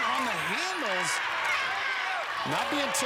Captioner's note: cheering